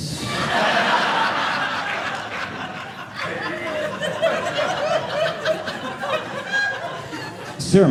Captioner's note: audience laughing